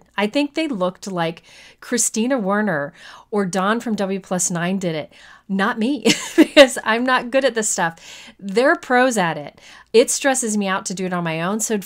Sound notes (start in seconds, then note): 6.1 chuckles